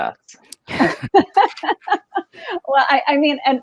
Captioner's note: laughs